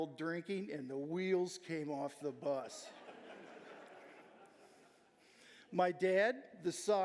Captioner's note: audience laughing